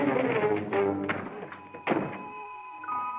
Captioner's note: suspenseful music; door opens; door closes